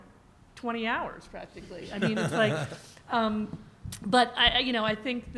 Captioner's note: laughter